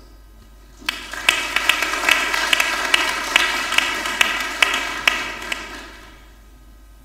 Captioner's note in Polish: oklaski